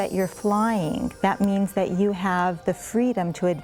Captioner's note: bells chiming